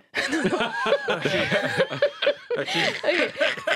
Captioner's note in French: rires